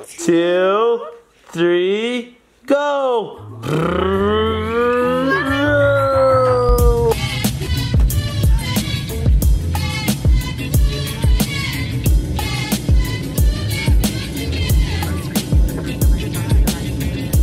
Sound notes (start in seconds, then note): 3.2 engine noises; 7.3 funky music